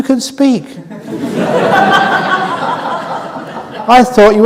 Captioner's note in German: Gelächter